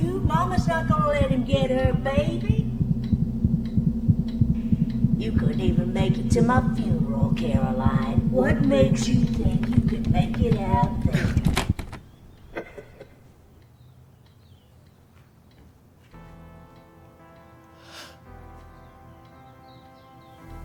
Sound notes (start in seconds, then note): 3.5 dramatic music; 13.2 birds chirping; 17.8 dramatic music